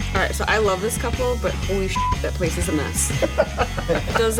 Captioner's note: beep; laughs